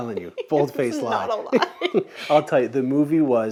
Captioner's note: both laugh